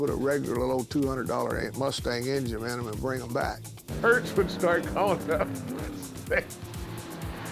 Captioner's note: laughing